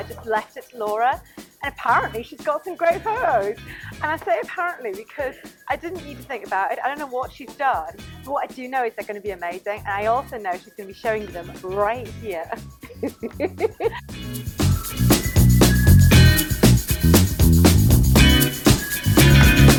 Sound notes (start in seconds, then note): 12.8 laughing